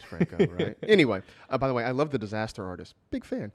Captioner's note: laughs